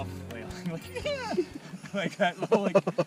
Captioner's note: squeals; laughter